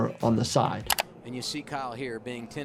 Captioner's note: button clicking